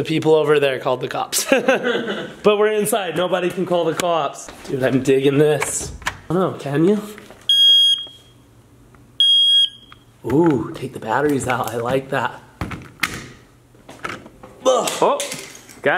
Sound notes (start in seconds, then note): 1.4 laughs; 7.5 beeps